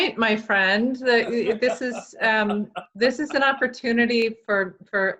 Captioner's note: laughs